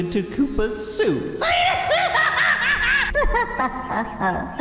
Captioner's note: Iggy laughs maniacally